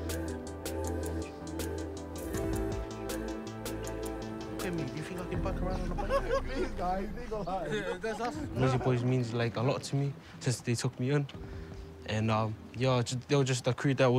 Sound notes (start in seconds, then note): 5.4 group laughs